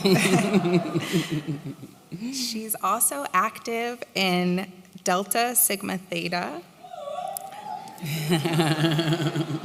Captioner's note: whoo!